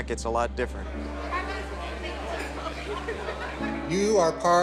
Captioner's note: murmuring